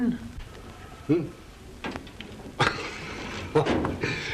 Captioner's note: laughs